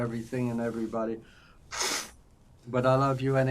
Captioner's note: wiping nose